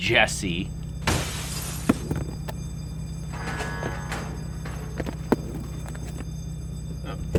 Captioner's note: glass breaks; bell rings